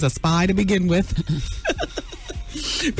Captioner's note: laughs